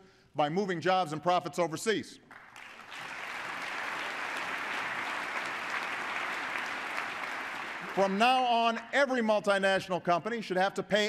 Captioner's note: applause